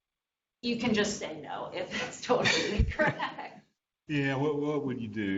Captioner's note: laughs